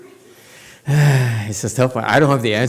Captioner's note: sighs